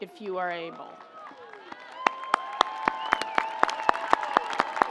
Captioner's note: audience applauds